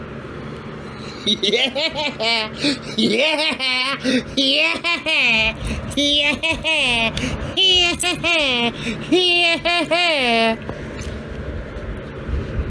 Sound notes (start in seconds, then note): 1.0 laughing; 6.8 continues laughing